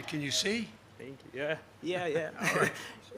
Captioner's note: laughter